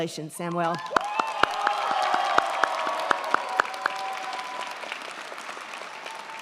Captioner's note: crowd clapping; crowd cheering